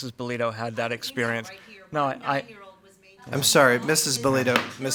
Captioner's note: speaks faintly